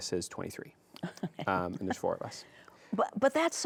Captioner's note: chuckles